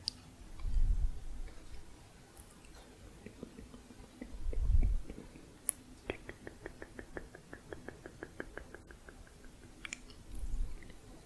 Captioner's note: tongue clicking